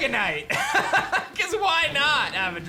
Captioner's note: laughs